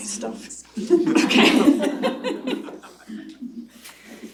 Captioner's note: laughter